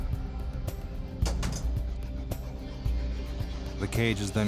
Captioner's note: cage door clangs